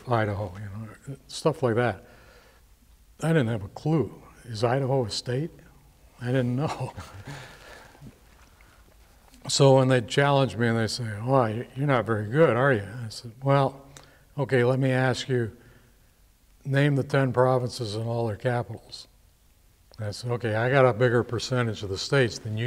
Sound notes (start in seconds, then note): 6.6 chuckles